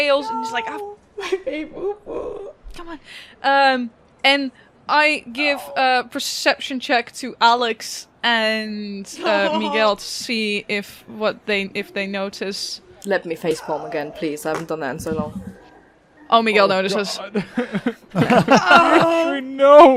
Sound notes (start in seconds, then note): 15.6 dice thunks